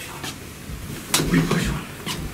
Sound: out of breath

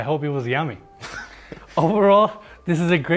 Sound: laughing

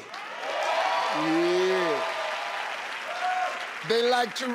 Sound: crowd cheers

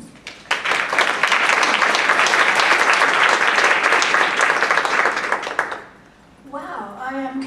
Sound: applause

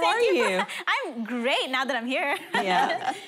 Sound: laughing

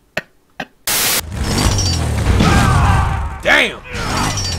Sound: laughs; chainsaw rumbling

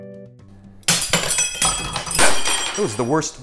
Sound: spoons clatter

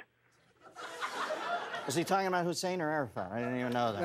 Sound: laughter

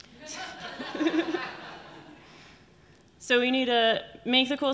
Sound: audience laughing

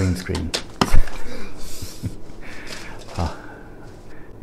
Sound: painful groaning

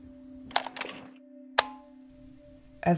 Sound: tape STOP. Tape START

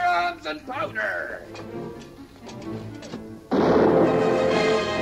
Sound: anticipatory music; guns firing

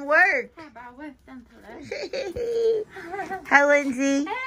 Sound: laughs

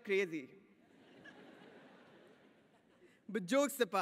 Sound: audience laughs

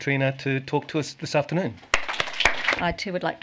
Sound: applause

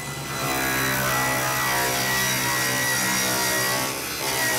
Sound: saw buzzing

